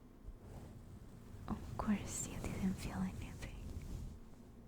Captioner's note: brushing resumes